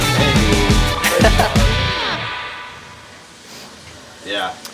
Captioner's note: laughing